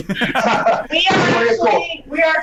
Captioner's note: all laugh